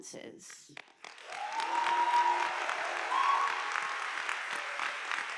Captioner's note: audience applauding